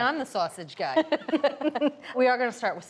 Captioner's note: both laughing